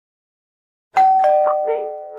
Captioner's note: doorbell Rings